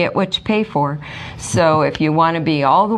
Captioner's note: laughs